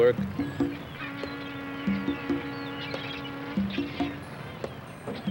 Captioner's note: ship horn sounding